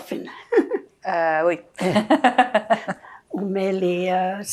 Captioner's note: laughing